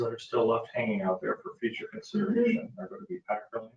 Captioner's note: speaking faintly